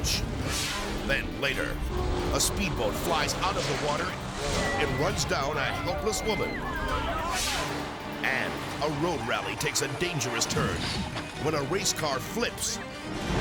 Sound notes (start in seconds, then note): 0.3 screen exploding; 4.3 people screaming; 7.4 screen exploding